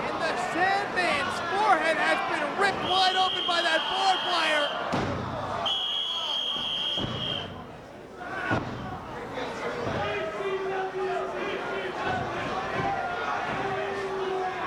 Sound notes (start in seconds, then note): 5.6 whistling; 9.9 spectator chanting "ECW!"